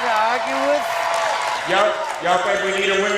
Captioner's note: audience cheers